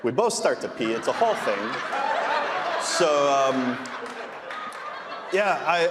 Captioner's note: audience laughing